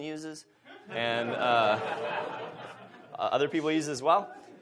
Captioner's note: audience laughs